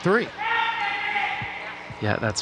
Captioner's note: shouting